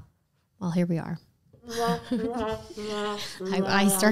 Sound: mocking sound

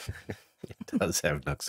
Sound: both Laughing

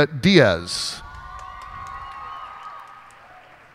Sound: cheers and applause

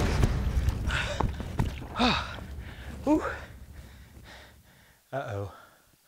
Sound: panting

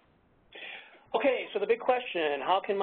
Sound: voiceover

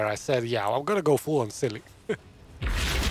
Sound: laughs

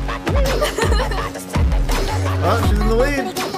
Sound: giggles

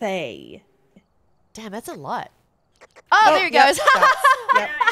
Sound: laugh

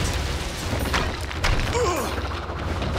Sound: groaning

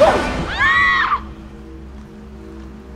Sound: scream

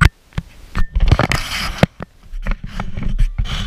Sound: GoPro HINGE CREAKING

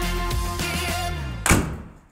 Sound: car hood slams

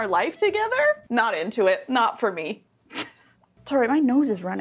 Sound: laughs

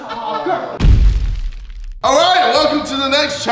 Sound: laughing

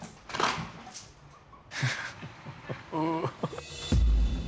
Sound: laughter

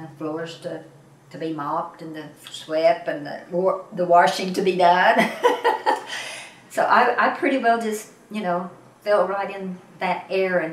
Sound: laughs

